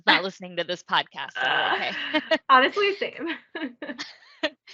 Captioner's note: laughs